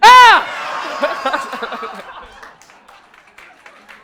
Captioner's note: audience laughing